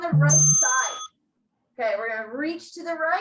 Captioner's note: bell rings